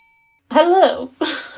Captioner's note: ding